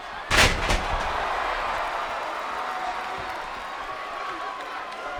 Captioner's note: audience cheers